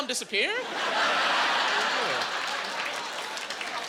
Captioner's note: laughing